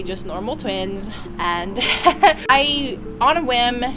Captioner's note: laughter